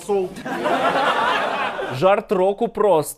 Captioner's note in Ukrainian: сміх